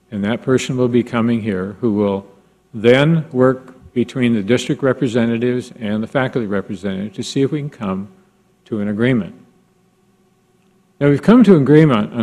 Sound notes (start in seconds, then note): none